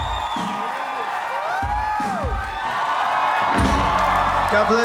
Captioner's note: applause